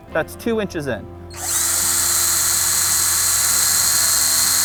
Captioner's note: drill whirling